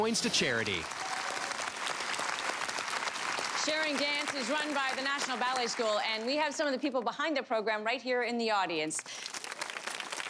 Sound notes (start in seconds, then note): 0.4 audience applause